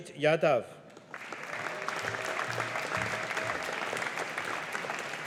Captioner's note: audience applauding